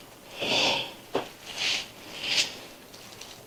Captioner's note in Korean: 콧방귀